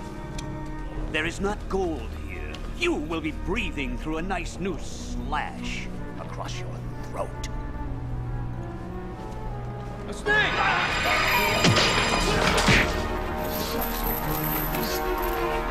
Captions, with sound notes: - If there is not gold here, you will be breathing through a nice new slash across your throat. A snake! (thud) (dramatic orchestral music) (punch) (chains rattling)